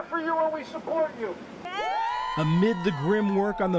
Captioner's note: cheering and applause